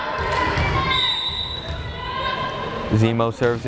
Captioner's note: whistle blares